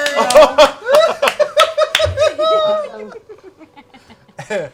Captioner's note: laughter